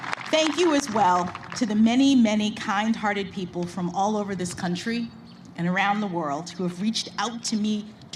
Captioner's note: applause